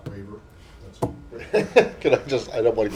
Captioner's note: laughter